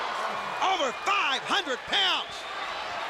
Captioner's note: crowd chatter